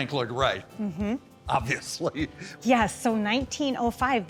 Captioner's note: laughing